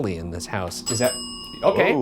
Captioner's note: bell dings